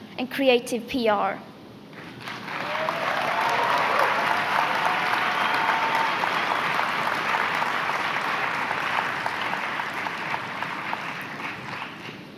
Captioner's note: applause